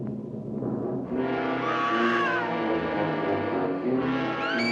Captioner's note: screams; loud fast-paced music